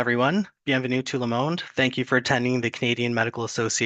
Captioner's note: french